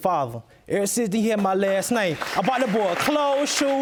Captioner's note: audience applauding